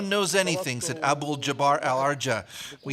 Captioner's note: foreign language